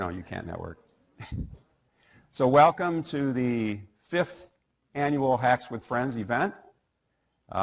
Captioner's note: laugh